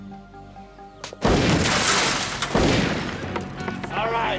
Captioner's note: rifle blasting